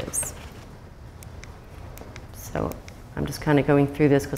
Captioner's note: clicks remote